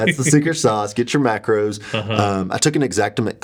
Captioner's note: laughing